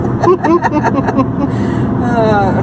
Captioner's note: laughs